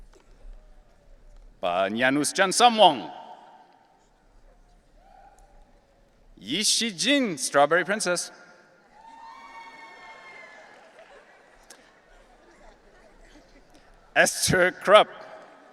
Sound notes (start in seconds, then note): 8.9 audience cheering and laughing